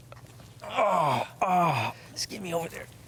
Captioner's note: Malcolm moans intensely